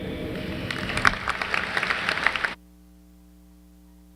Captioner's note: applause